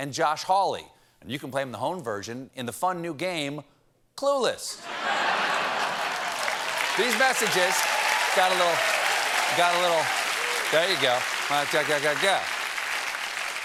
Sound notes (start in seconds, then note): 4.8 applause; 4.8 laughter